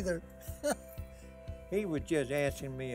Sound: laughing

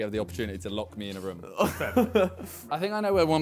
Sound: laughs

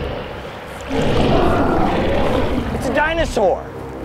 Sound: dinosaur bellows; dramatic music

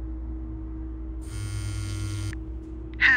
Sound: phone vibrates

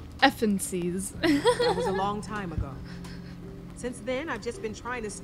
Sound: Sabrina laughs

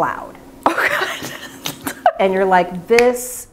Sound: laughing

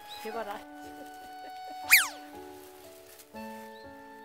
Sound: laughing

